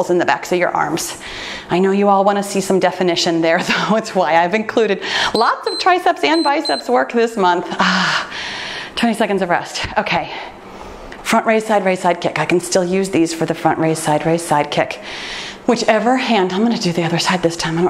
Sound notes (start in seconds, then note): 6.2 timer beeps